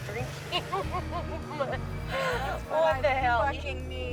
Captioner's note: laughs